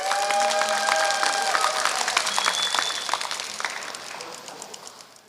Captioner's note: applause